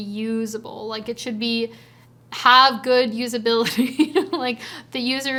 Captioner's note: chuckles